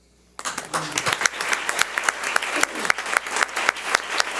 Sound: audience applauds

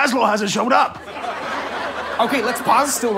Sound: audience laughter

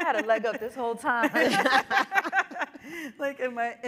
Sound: panelists laughing

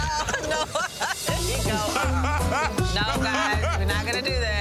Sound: laughing

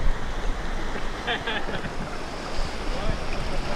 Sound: laughs

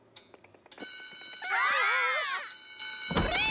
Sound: school bell rings

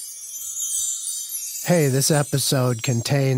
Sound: chimes

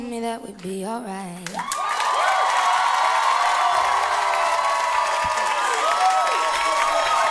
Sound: applause

